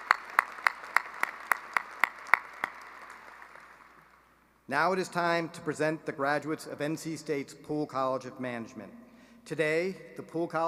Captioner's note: applause